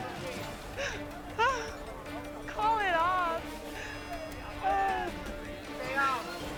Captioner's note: sobs